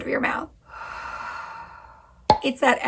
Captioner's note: breathing